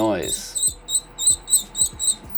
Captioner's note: screeching